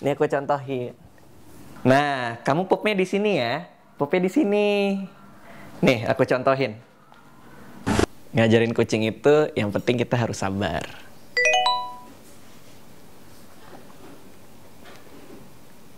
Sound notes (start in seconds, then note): 11.4 phone beeps